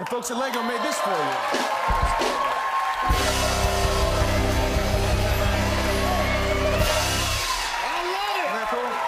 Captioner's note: cheers and applause